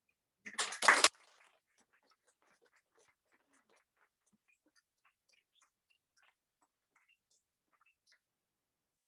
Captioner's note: applause